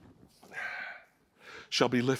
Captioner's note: sighs